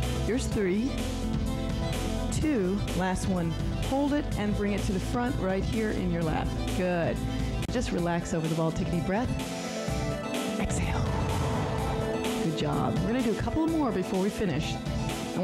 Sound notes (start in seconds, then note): 9.4 breath hisses